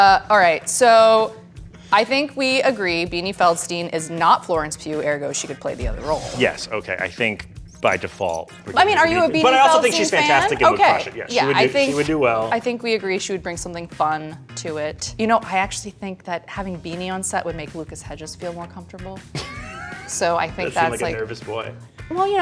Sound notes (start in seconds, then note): 19.3 laughs